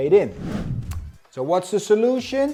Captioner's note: air swooshing